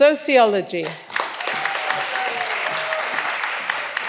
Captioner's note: all applauding